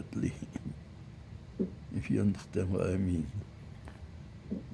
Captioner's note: laughing